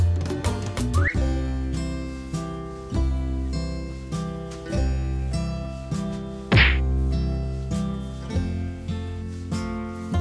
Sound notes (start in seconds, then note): 6.5 smack!!